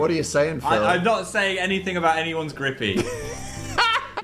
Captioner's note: laugh